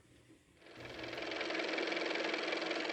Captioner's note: car motor